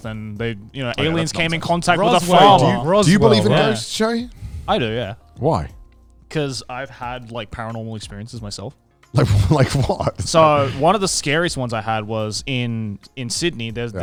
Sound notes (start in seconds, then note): 9.2 laughs quickly